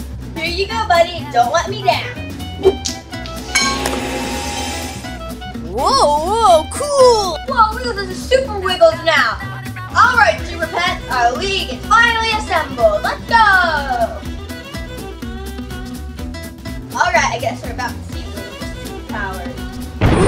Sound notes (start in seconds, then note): 3.5 magic whooshing